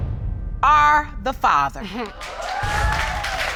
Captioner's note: scoffs